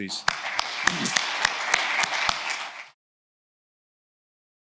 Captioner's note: attendees applauding